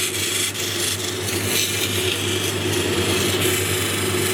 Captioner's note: machine whirring; stone grinding